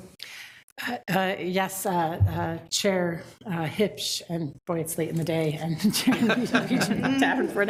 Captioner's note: chuckles